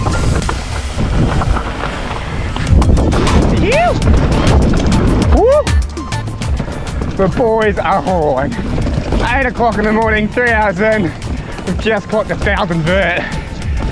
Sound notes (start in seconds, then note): 0.1 bike clatters; 4.6 bike clatters; 4.9 upbeat music continues